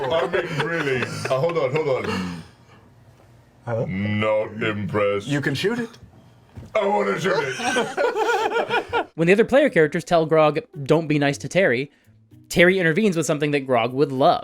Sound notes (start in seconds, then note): 7.3 all laugh